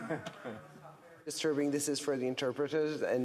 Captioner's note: laughter